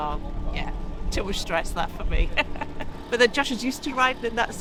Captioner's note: laughs